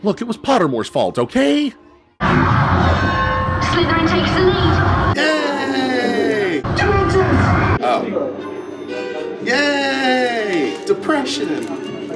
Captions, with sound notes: Look, it was Pottermore's fault, okay? [bell rings] - Slytherin takes the lead. - Yay! - Dementors! - Oh. Yay! Depression!